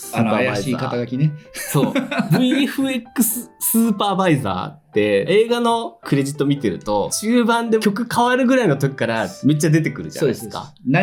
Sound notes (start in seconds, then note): 1.6 laughter; 1.6 laughs